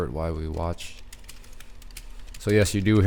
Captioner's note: typing